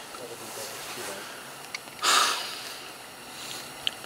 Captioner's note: heavy sigh